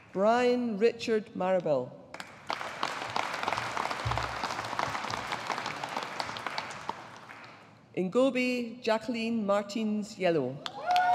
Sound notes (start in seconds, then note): 2.2 audience applauding; 10.8 audience applauding